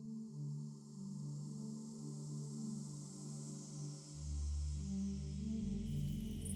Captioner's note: light ethereal music; gentle breeze